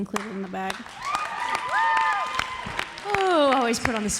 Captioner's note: audience applauds; audience cheering